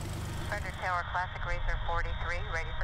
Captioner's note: pilot On Radio